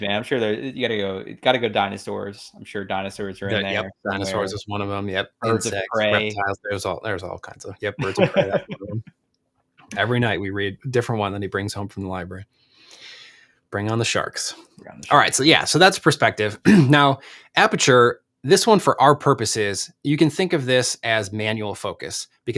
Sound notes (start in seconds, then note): 7.8 laughs